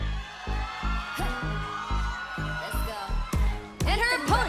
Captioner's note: crowd cheering